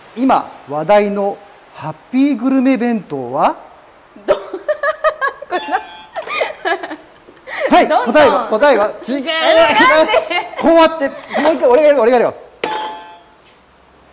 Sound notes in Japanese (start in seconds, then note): 4.2 爆笑